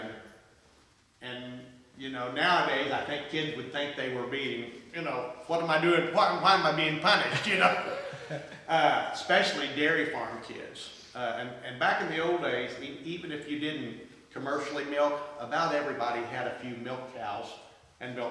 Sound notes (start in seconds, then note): 7.2 laughs